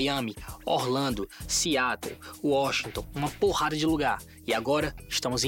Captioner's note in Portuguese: none